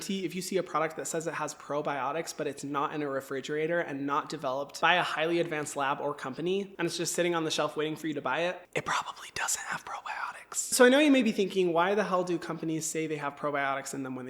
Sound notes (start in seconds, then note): 9.0 whispers